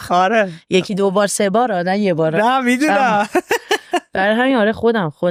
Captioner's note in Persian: خنده